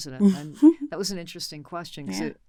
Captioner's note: giggles